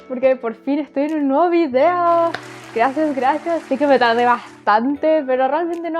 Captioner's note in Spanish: Sonido de aplausos